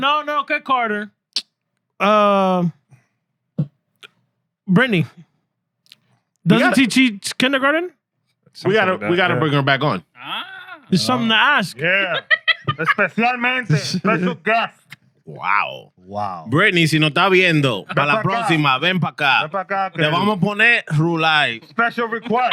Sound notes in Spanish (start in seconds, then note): 14.0 Hablando en idioma extranjero; 17.0 Hablando en idioma extranjero